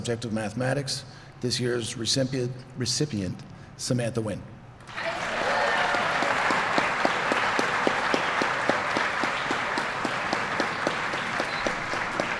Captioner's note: applause